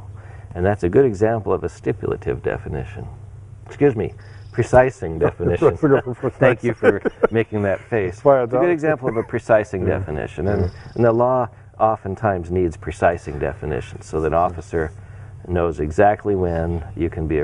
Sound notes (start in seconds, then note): 5.0 laughing